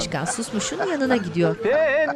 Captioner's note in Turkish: Suskun gülme sesi